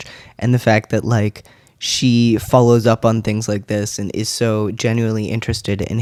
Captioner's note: none